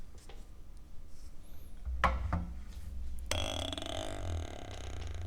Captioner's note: sound of Arbor Press and cork